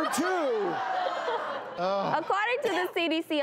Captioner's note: laughing